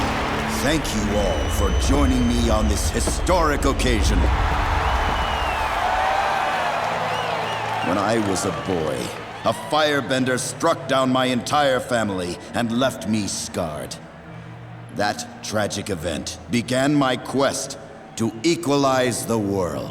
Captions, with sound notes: Thank you all for joining me on this historic occasion. [cheering] When I was a boy, a firebender struck down my entire family and left me scarred. That tragic event began my quest to equalize the world.